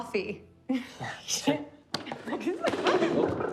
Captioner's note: laughing